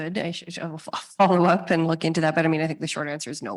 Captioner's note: laughs